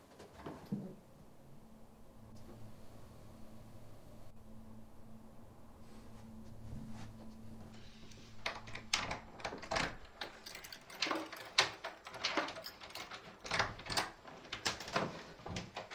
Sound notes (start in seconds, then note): none